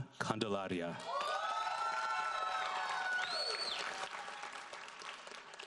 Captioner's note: audience applauds